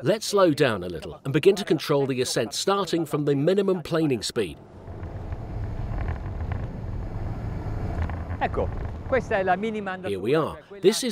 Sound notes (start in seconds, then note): 5.8 waves crashing steadily; 6.7 parts creaking neatly